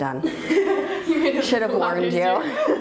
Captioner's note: laughing